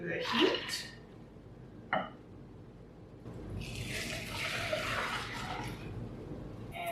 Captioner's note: liquid sloshing into the sauce pan